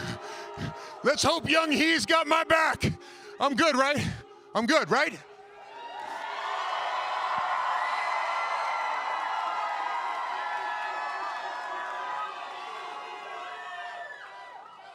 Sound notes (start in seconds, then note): 5.2 cheering